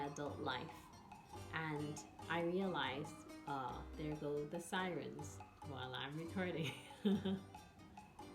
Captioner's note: there go the sirens while i'm recording